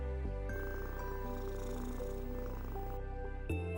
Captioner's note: cat purrs